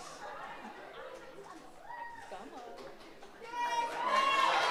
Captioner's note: audience chattering